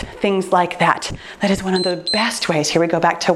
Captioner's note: timer beeps